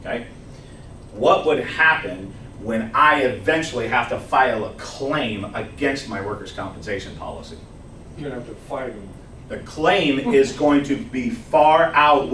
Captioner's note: laughs